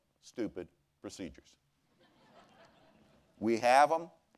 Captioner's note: laughter